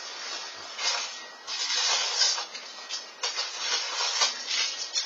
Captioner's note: wrappers crinkling